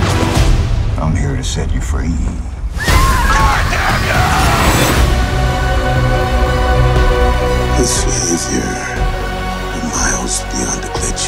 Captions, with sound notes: "I'm here to set you free." [Screams] "GOD DAMN YOU!" Bernard "This behavior..." "We're miles beyond a glitch."